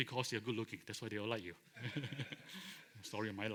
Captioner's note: laughter